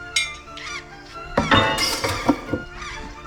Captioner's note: Roberts' sword falls onto dock